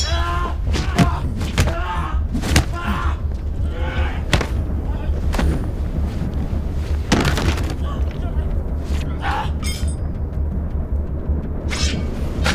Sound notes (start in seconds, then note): 1.7 man screaming; 2.2 thudding; 7.2 thudding; 9.5 metal clinking